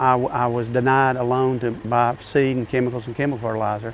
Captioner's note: background machinery sound